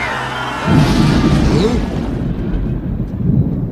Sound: thunder clap

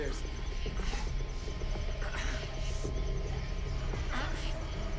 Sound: heavy breathing

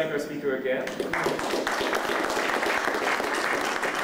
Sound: applause

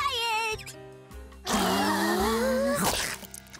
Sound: gasping

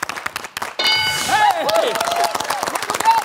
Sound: bell dings; cheering/applause

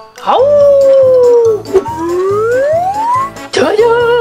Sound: Chase howls

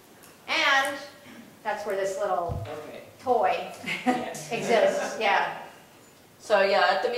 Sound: laugh

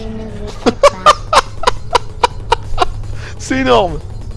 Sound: laughter

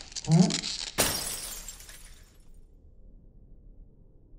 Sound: glass breaking

